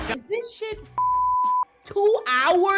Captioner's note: beep